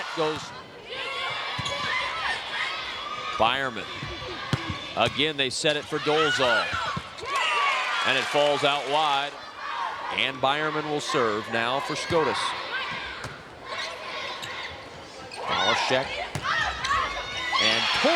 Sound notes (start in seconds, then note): 0.8 audience and players shouting